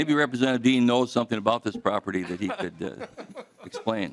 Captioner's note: laughter